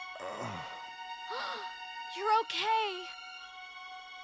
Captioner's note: gasping; groaning